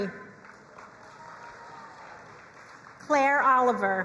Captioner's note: crowd cheering and applauding